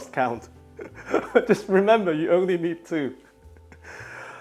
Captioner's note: laughing